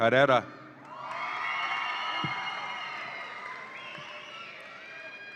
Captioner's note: audience applauds and cheers